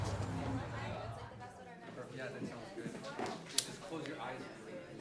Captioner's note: people chattering